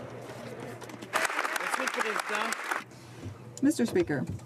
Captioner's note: some Applause